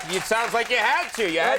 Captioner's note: audience clapping